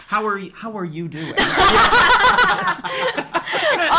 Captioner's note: laughs